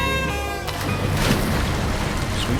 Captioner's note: water splashing